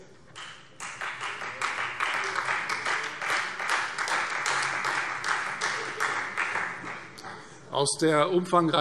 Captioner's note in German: Beifall Freie Demokraten